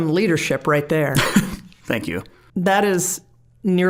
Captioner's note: laughing